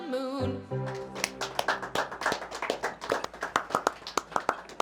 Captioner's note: applause